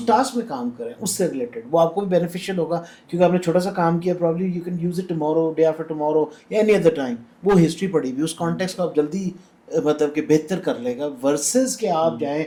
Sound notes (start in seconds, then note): none